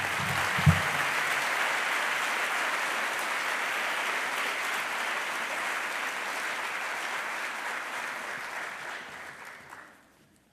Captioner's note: applause